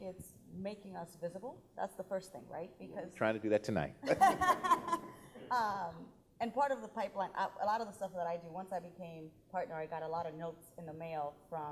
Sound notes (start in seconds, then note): 4.0 laughing